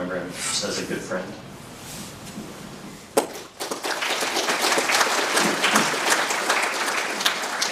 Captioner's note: applause